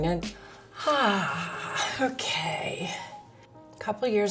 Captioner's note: sighs